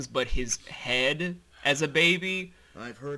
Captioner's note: sharp inhale-and-exhale